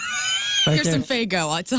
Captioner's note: laughing